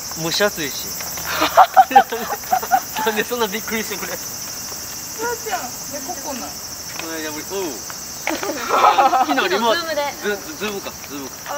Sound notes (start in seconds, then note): 1.2 laughter; 8.2 laughter